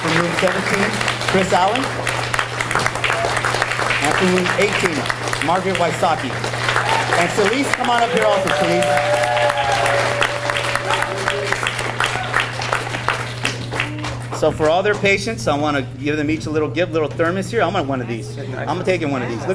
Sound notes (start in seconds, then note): 2.1 audience applauds; 6.8 audience cheers and applauds; 9.1 audience cheers and applauds